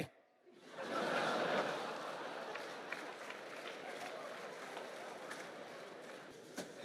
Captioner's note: audience laughter